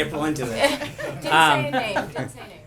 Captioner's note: laughter